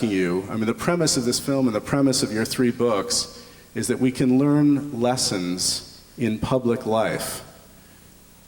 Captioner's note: none